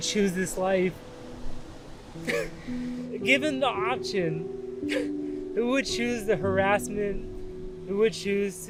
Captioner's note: chuckles